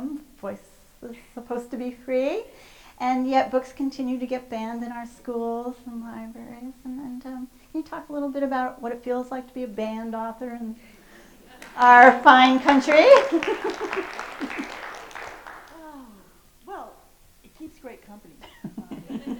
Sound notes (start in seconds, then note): 13.1 audience applause